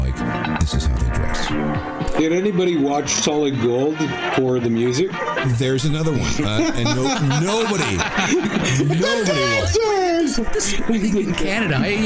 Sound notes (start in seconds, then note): 6.0 laughter; 11.1 electronic interference